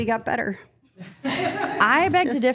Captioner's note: group laughing